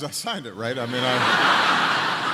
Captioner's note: laughter